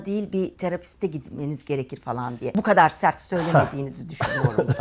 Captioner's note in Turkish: kahkaha